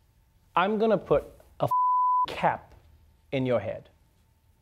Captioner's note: beep